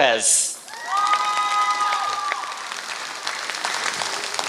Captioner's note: applause